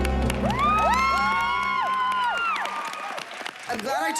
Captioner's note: applause